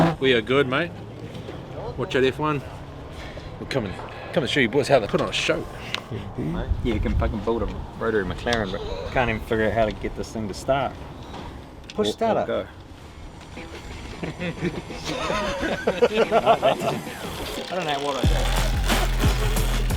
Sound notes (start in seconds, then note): 13.5 group laughing; 19.7 motor bike revving